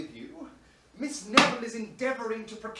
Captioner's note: none